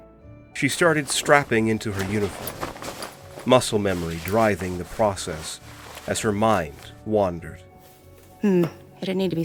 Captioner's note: clothes rustling